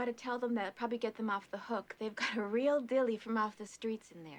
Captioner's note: laughter